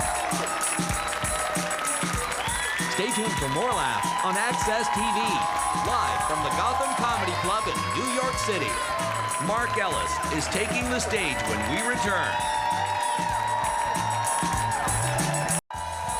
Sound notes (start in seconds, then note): 0.2 upbeat music; 2.2 audience cheering; 9.6 audience cheering; 12.6 audience cheering; 14.0 upbeat music